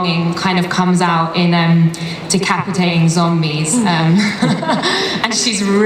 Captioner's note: laughs